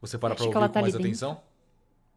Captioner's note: whispering